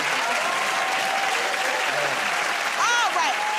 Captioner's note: cheers and applause